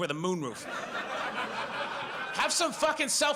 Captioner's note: audience laughs